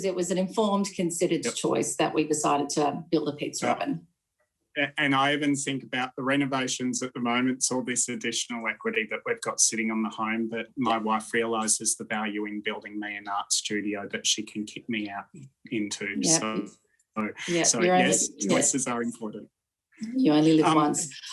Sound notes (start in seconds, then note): 15.8 audio skips